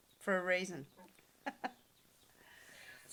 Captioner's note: laughs